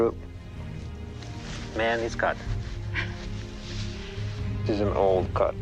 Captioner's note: woman chuckles